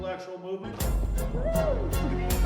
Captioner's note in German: jubel, lachen